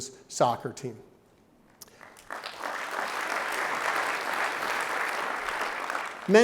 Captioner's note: clapping